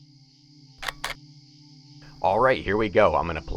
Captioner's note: camera clicking